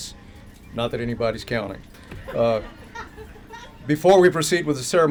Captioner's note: laughter